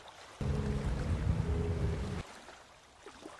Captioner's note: engine running